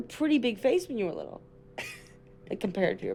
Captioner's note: chuckles